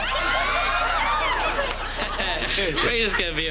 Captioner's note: screaming